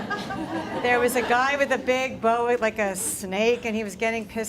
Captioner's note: laughter